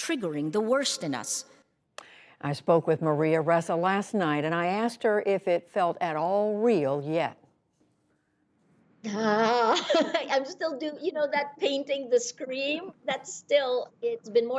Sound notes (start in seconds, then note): 7.9 laughter